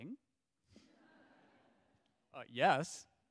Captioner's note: audience laughs